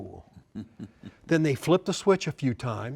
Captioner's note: chuckles